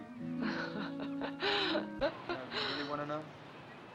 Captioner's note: Mora laughs